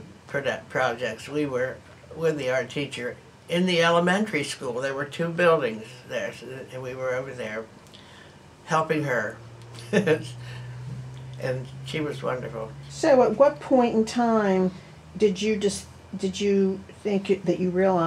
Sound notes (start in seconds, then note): 9.7 laughs